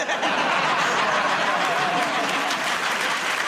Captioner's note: laughter